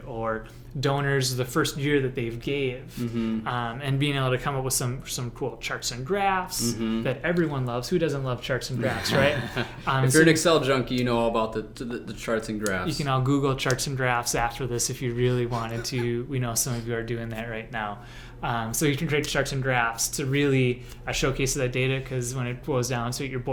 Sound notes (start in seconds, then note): 8.8 light laughter